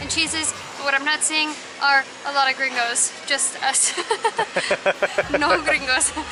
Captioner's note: laughter